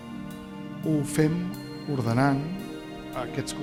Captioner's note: speaking spanish